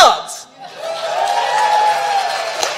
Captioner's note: applause